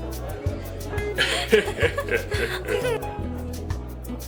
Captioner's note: man laughing